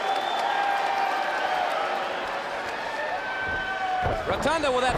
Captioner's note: crowd cheering